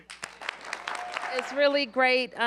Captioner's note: applause